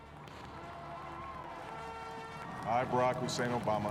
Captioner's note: cheers and applause